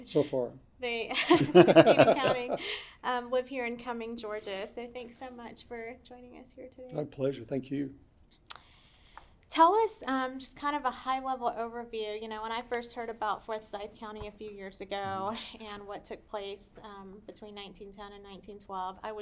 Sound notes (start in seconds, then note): 1.2 everyone laughs